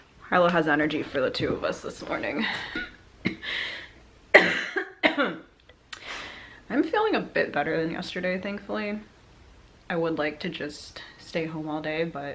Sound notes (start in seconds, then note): 4.3 coughs